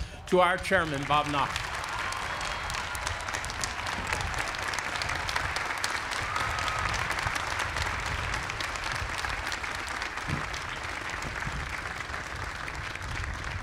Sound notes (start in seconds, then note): 2.1 applause